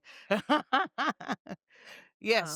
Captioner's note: laughing